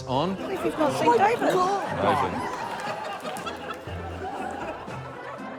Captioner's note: laughter